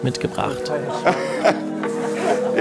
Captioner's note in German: Lachen